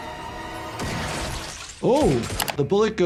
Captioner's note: dramatic music; blood splattering